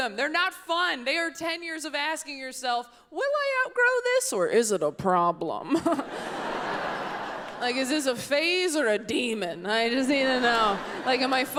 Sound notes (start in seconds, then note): 5.7 laughs; 5.8 audience laughs; 10.0 audience laughs